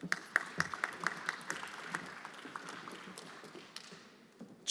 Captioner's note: everyone applauding